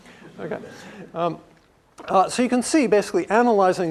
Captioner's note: laugh